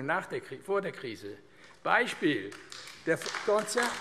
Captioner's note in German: Beifall AfD